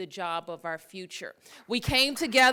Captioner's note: applause